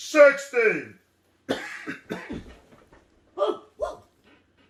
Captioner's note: coughs